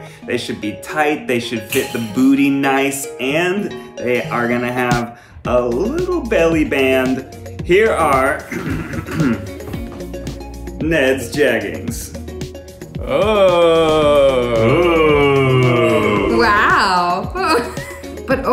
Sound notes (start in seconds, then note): 8.5 clearing throat